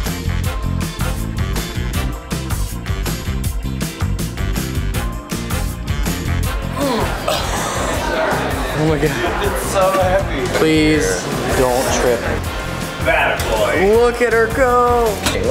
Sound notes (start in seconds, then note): 0.0 upbeat, jazzy music; 6.7 grunting